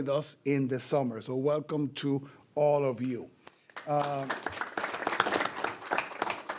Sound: board members applauding

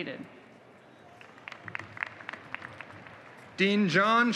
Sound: applause

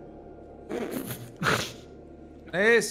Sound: laughs

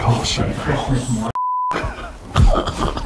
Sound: beep; both chuckling

